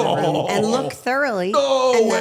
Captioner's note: Stephanie laughs